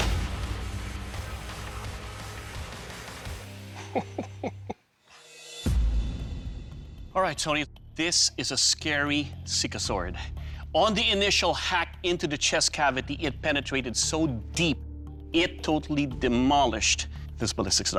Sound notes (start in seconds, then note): 3.7 laughing